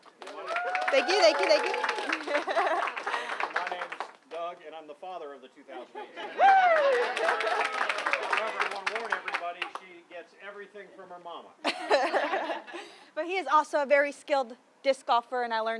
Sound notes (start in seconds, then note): 0.1 crowd Cheers; 6.2 audience cheering; 11.7 audience laughing